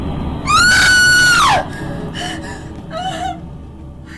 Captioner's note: Kate screaming